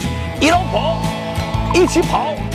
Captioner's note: in Shanghainese